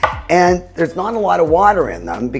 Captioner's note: knife thuds